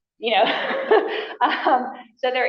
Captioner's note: laughter